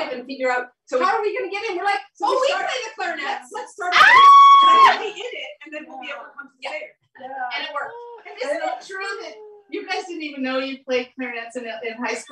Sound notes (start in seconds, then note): 4.9 laughter